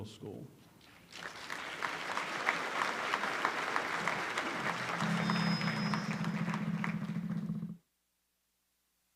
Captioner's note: applause